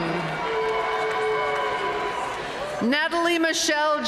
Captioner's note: audience cheering and applauding